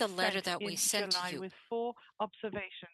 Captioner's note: speaking in French